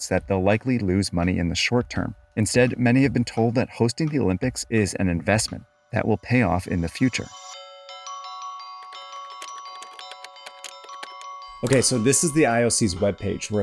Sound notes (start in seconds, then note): 8.1 bright ambient music; 8.7 keyboard clattering